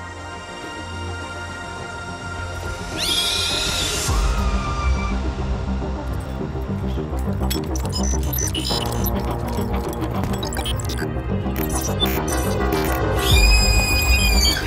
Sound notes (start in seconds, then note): 2.6 screaming; 7.7 dreamy electronic music intensifies; 11.4 robotic beeps and shrieking sound